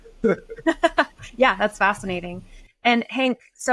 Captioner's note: laughs